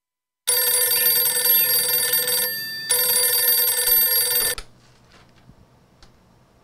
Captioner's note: ringing phone